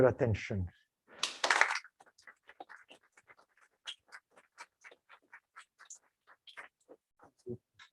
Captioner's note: applause